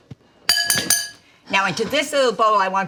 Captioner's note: knife clinking